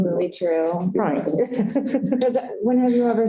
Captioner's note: laughter